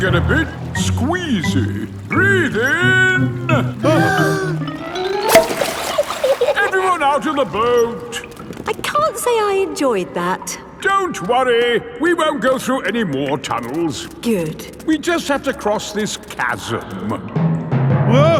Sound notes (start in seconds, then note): 3.8 breathing in